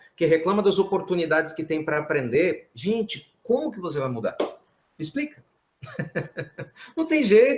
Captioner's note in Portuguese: risos